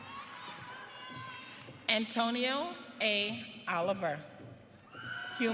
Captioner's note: audience cheering